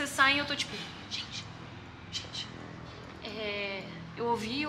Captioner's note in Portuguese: sussurrando